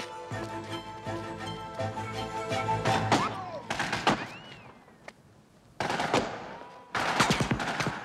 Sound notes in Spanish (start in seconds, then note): 3.1 gunfire